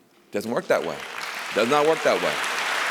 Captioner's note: applause